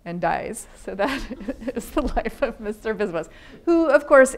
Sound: laughing

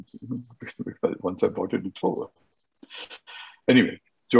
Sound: laughing

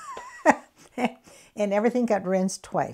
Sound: laughs

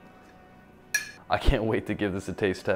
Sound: bowl clattering

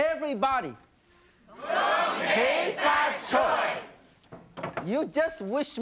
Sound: speaking in foreign language

